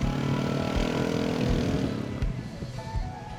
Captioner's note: rumbling engine